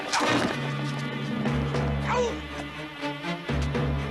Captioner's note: yelling; man on pier grunting